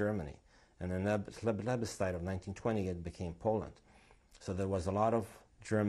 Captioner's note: non-english